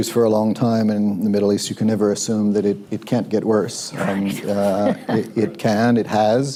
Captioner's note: laughter